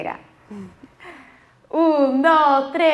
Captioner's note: laughing